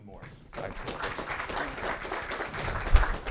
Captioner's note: applause